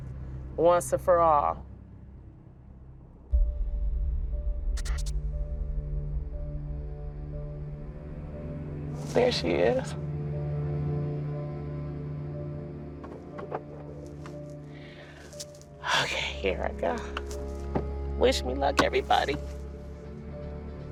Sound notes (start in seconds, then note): 3.1 foreboding music; 13.2 door clicks open; 14.7 takes deep breath; 15.8 sighing